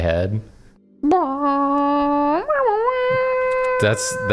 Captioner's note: humming